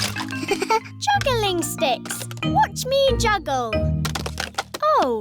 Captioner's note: chuckles